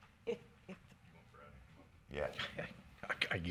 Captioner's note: woman chuckles